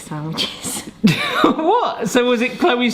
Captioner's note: chuckles